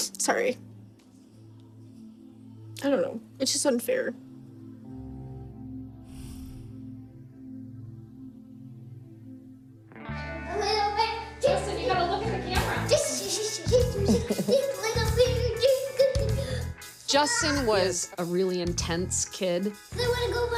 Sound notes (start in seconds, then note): 4.5 gentle music; 11.6 making silly nonsense sounds